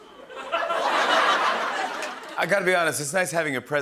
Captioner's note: laughter